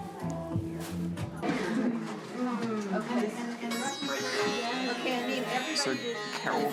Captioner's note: chatter